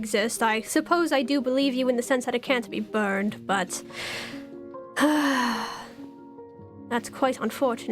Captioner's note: sighs